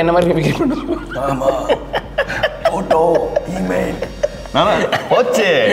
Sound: tamil film dialogue

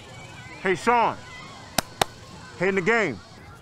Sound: clapping

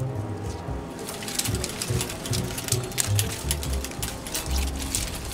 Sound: film reel clanking loudly

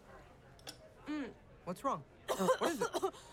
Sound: coughing

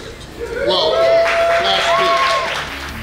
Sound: cheering & Clapping

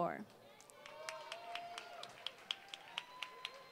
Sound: applause

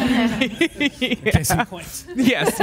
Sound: panelists laughs

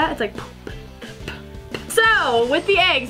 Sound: both make puffing sound effects

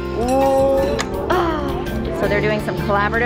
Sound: child babbles; exclaims

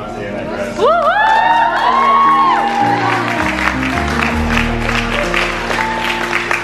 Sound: crowd cheering and clapping

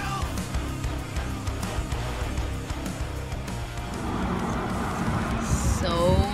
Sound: music volume lowers quickly, and gives way to traffic noise on busy road

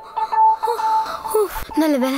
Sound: sighs

